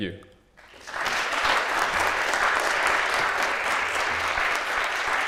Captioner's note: applause